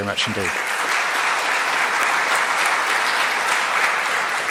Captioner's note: crowd applauds